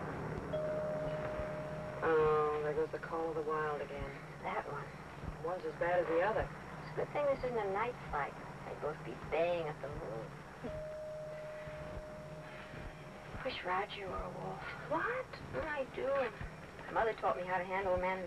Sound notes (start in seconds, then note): 0.5 bell dings; 10.6 bell dings